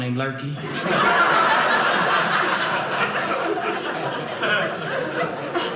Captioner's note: audience laughing